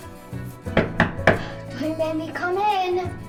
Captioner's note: gentle orchestral music continues; hand knocking on door